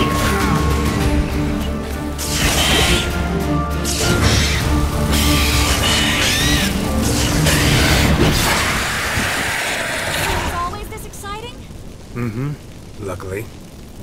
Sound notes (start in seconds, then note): 2.1 groan; 4.5 flames crackle; 5.0 shriek; 7.0 screech